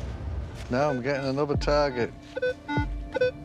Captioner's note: beeping